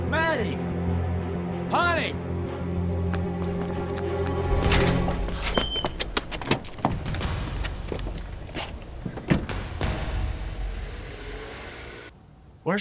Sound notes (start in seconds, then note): 4.5 door clicking; 5.0 feet shuffling; 10.8 engine purring